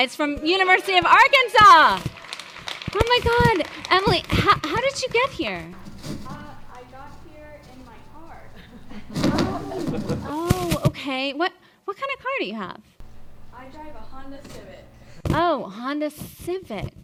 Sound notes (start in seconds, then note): 2.0 audience applauding; 8.5 audience chuckling